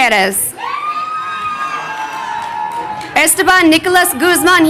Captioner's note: crowd cheering